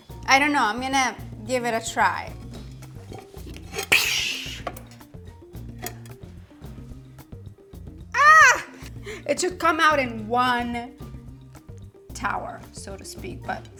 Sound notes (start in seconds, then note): 2.5 light music continues; 4.1 exhales loudly; 4.1 grape leaves scuffling